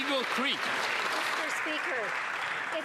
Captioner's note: some Applause